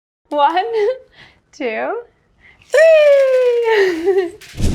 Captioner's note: giggling; sprinkles clattering